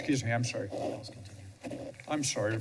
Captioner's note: whispers